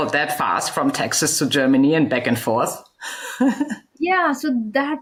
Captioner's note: laughs